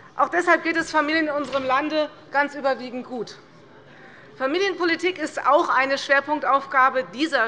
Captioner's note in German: none